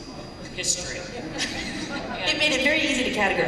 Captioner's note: laughter